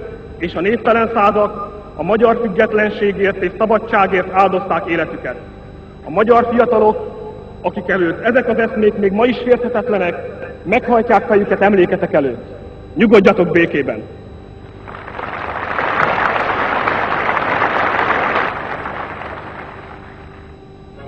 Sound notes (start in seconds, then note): 14.7 applause